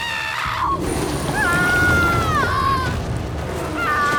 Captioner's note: Dr. Bar beau screams; screams